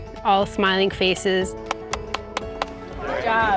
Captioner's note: hands clapping